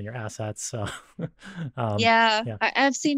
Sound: chuckles

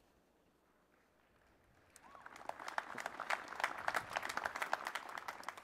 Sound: applause

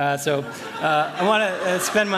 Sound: laughter

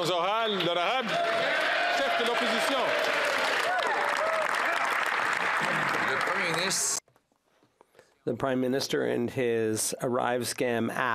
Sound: some Applause

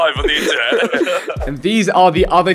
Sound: all laughing

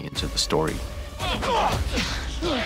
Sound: grunting

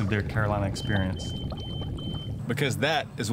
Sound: alarm beeping

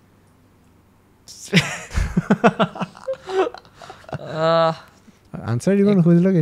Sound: laughs

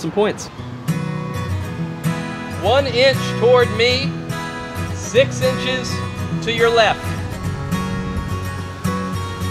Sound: yelling instructions

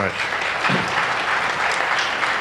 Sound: applause

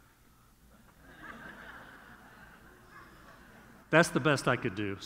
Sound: audience laughing

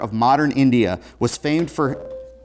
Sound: buzzer

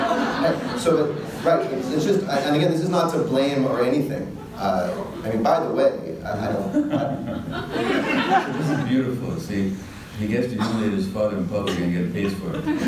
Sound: audience laughter

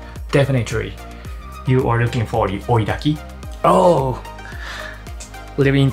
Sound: none

